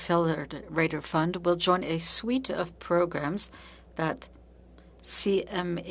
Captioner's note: speaking French